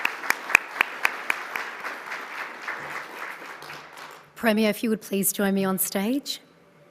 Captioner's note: applause